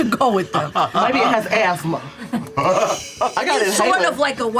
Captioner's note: laughs